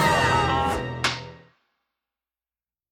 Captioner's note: clack